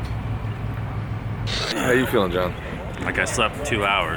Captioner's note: clearing throat